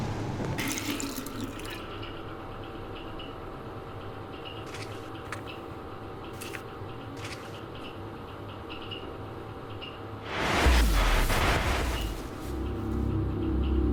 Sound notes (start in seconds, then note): 0.6 water dribbling; 10.4 eerie music